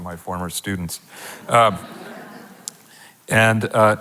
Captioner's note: audience laughing